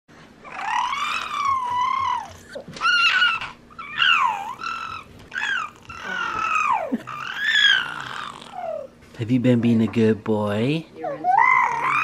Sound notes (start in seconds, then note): 0.7 whirling; 3.1 baby laughing; 4.9 gurgling; 11.8 gurgling